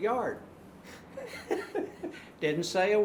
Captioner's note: laughing